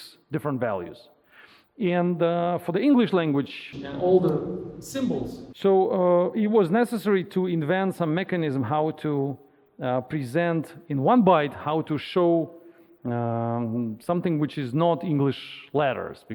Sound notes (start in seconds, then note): 3.4 audience member speaking